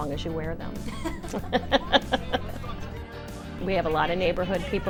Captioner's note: laughing